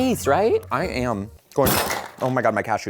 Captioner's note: cashew bowl crashes